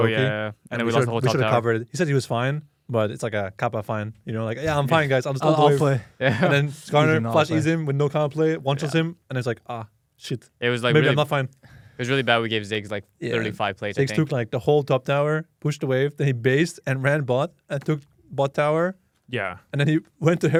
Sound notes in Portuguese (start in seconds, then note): 6.2 risos